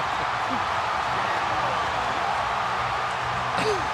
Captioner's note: laughs; cheering